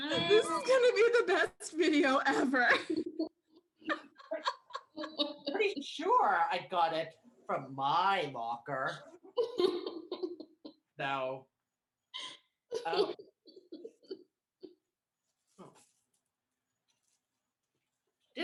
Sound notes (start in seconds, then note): 2.5 laughter; 4.2 Riley sobbing; 9.4 Riley sobs